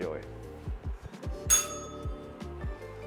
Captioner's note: bell rings